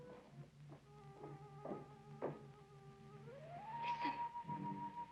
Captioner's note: footsteps tapping